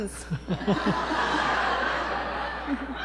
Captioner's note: laughter